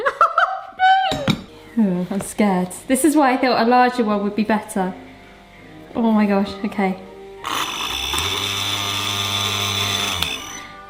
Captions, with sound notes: (laughs) - Uh, I'm scared. This is why I feel a larger would be better. Oh my gosh. Okay. (buzzing noise)